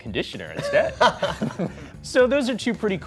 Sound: laughing

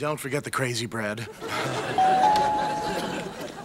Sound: <i>chuckles

